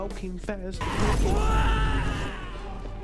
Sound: screaming

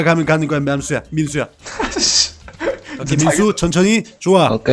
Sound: laughter

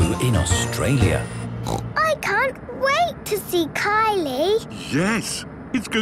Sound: snorting

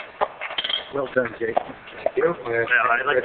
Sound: chattering

